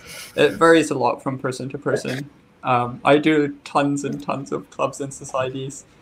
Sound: giggle

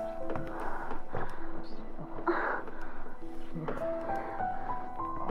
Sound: heavy breathing and moaning

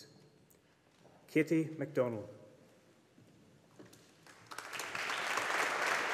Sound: audience applauding

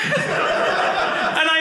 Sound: audience laughing

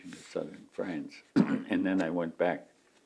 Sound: coughs

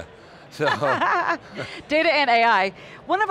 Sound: laughs

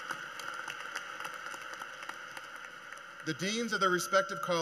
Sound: cheers and Applause

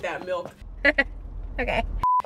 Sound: chuckles

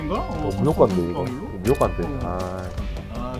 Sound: obviously being sarcastic

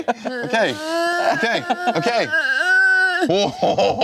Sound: laughing

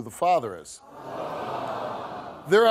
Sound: audience awws

